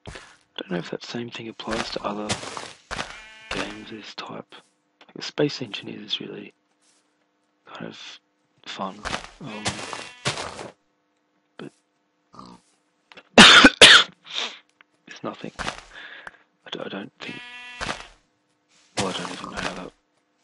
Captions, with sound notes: Don't know if that same thing applies to other games of this type Space Engineers is really Kind of Fun. Um But [coughing] [sniff] It's nothing I, I don't think Well I don't even know how that'd